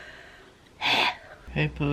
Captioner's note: heavy sigh